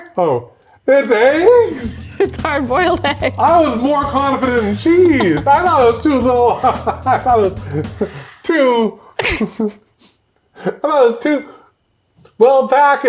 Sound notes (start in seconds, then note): 6.7 laughing